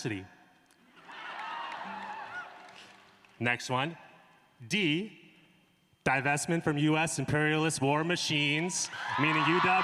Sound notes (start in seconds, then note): 1.0 applause